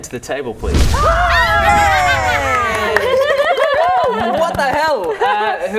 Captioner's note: cheering